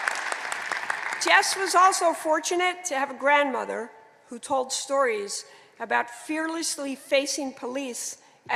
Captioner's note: applause